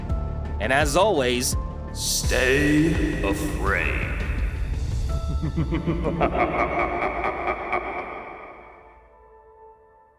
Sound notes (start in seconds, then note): 4.9 suspenseful music; 5.3 chuckles